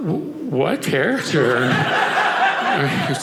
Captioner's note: audience laughing